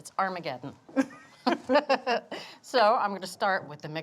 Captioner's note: both laughing